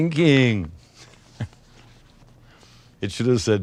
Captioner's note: laughs